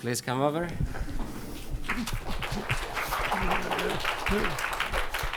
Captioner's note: applause